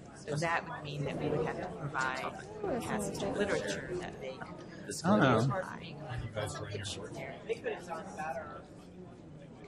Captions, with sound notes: That would mean that we would have to provide a passage of literature that they... - [Voiceover] I don't know.